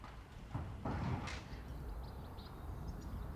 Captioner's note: birds chirping